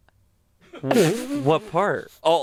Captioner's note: laughs